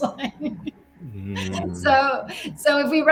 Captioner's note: laughs